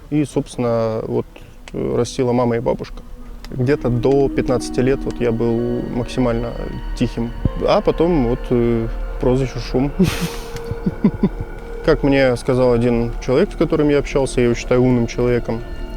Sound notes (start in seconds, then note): 9.9 laughs